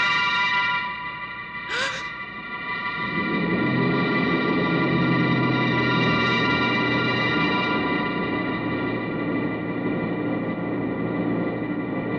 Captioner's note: gasp